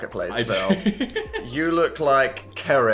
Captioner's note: laughs